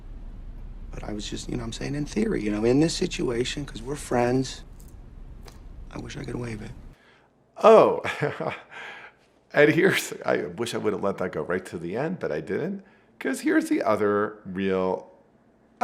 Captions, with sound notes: But I was just, you know, I'm saying in theory, you know, in this situation, 'cause we're friends, I wish I could waive it. - Oh, (chuckles) and here's, I wish I wouldn't let that go right to the end, but I didn't 'cause here's the other real...